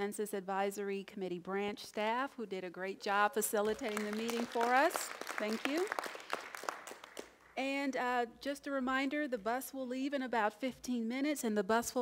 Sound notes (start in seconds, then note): 6.1 applause